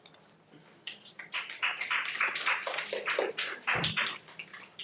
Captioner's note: audience applauds